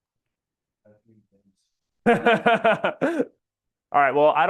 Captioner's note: laughs